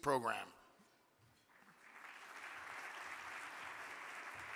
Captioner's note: audience clapping